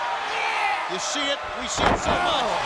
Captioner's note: crowd shouting